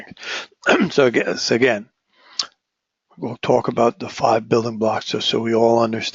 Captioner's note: cough